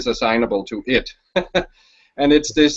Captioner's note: chuckles